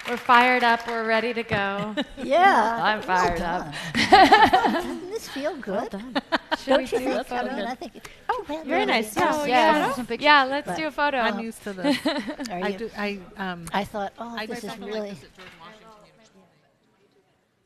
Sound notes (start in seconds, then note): 3.7 laughs; 6.6 general chatter